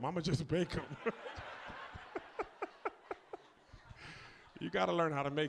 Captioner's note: audience laughs